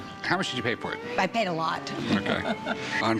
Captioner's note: laughs